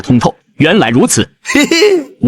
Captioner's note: chuckles